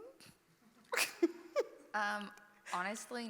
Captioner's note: laughs